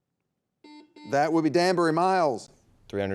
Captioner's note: buzzer beeping